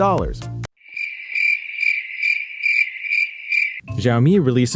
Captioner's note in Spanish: grillos